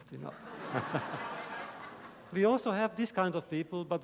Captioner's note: laughter